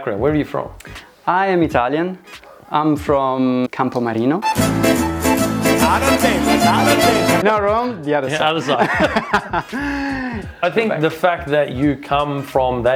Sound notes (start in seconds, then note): 4.4 italian music; 8.3 laughs